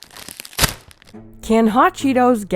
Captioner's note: plastic rips